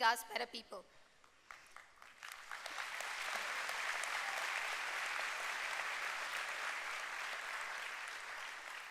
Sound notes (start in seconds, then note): 4.0 applause